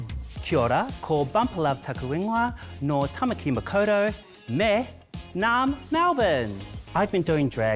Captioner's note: speaking Maori